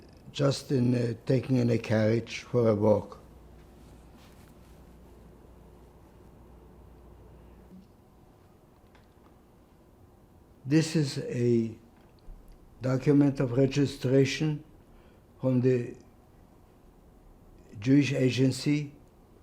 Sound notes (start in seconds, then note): 4.4 pauses 6 seconds